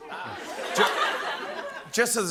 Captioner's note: laughter